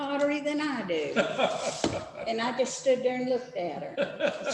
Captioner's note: laughter